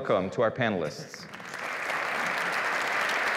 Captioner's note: applause